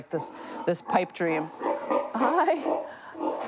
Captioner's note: pig grunting